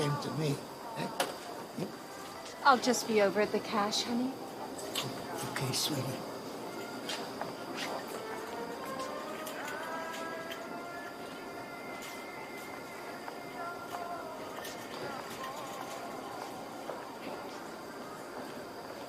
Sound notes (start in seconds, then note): 4.8 kisses